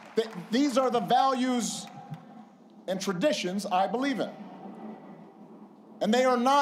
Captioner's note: applause